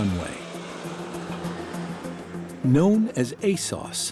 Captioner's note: roar of airplane engine